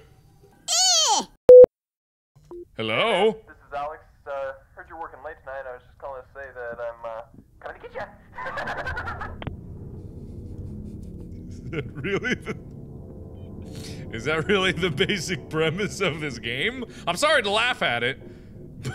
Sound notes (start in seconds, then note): 11.5 laughs